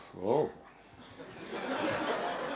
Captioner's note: laughter